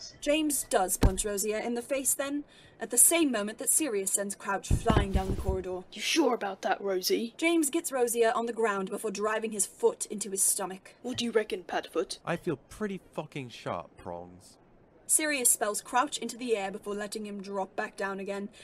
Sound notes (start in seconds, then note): 4.7 body falls to floor